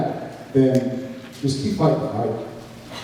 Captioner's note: snaps fingers